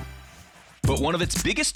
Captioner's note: air whooshing